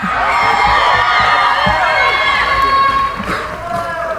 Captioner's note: cheering